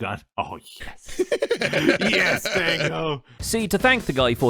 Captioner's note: laughs